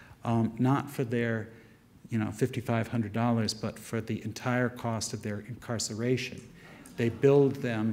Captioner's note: audience murmurs